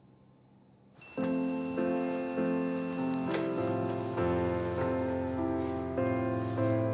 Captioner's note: text chiming; bright music